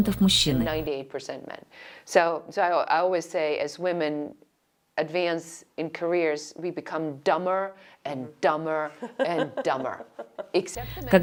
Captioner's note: Говорят на английском